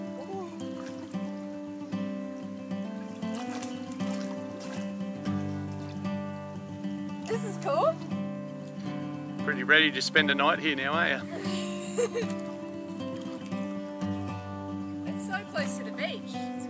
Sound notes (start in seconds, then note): 0.1 gentle guitar music; 3.8 water splashes; 11.2 laughs